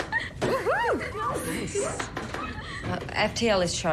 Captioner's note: laughing